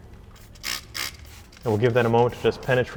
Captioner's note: bottle spritzing